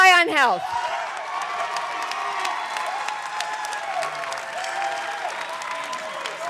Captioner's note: audience clapping and cheering